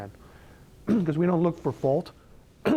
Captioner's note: coughs